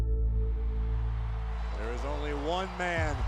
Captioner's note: crowd cheering